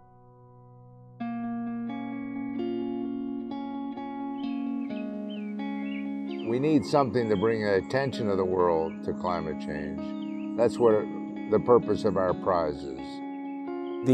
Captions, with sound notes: (sparse timid music) (birds chirping) - We need something to bring the attention of the world to climate change, that's where the purpose of our prize is.